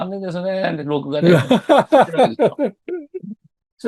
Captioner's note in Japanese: 笑い